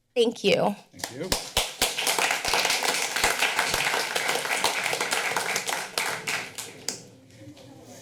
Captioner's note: applause